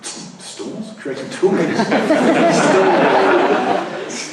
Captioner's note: laughter